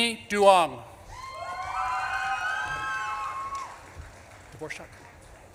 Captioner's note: audience claps and cheers